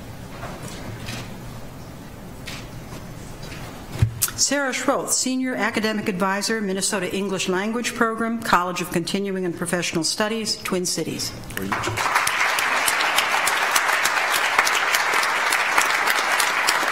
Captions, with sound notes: Sara Schroth, Senior Academic Advisor, Minnesota English Language Program, College of Continuing and Professional Studies, Twin Cities; (audience applauds)